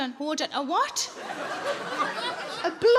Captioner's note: audience laughs